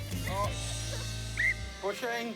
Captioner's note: whistle blows